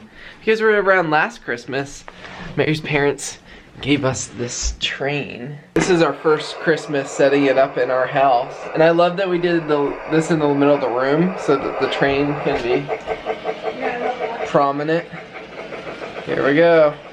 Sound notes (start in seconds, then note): 13.0 train chugging